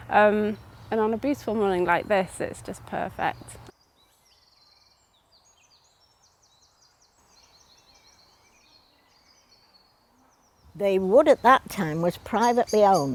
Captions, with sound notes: And on a beautiful morning like this it's just perfect. [birds chirping] The wood at that time was privately owned